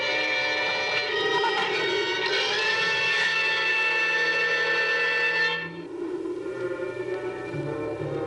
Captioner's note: none